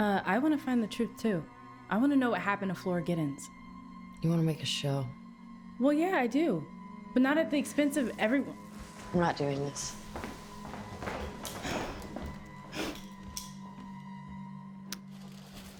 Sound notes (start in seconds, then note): 9.8 footsteps tapping